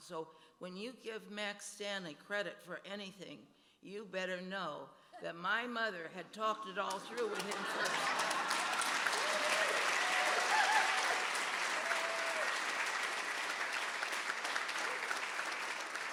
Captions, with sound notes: So when you give Max Stanley a credit for anything, you better know that my mother had talked it all through with him. (audience applauding)